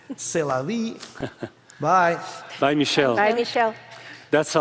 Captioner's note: laugh